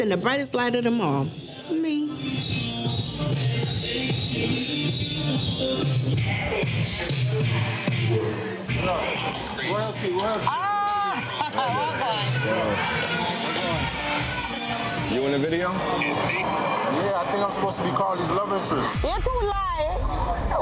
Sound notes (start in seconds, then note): 2.0 dance hall music continues; 10.8 laughing